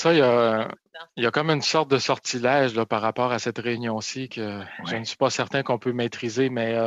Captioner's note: speaking French